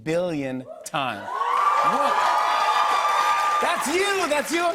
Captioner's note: cheers and applause